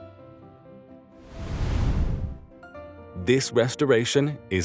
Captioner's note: graphics whooshing